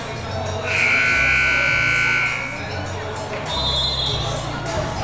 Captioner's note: buzzer blares